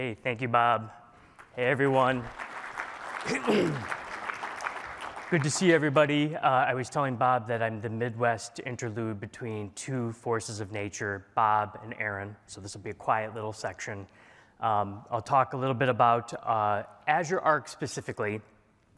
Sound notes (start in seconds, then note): 2.8 applause